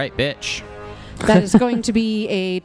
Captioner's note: laughs